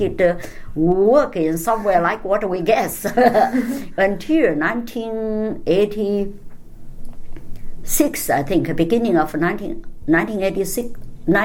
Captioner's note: all laugh